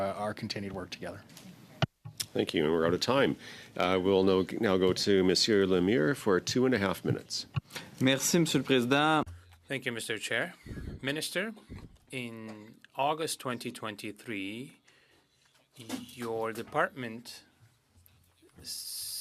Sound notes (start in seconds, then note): 15.1 speaking French